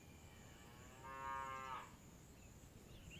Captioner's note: Beuglement d’une vache